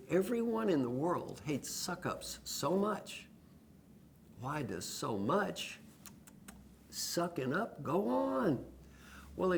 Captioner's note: lip sounds